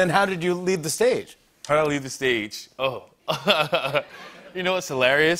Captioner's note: laughs